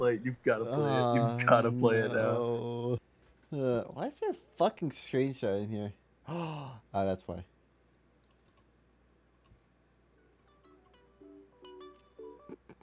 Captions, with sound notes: You've got to play it You've got to play it You've got to play it You've got to play it Nooo Nooo Uhh Uhh Why is there a fucking screenshot Why is there a fucking screenshot In here In here *GASP* *GASP* Oh that's why Oh that's why